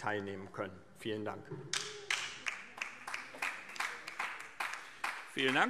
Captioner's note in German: Beifall DIE LINKE